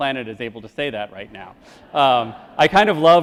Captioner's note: crowd laughs